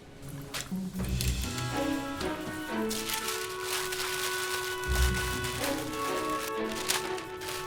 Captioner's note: paper shuffling; upbeat stirring music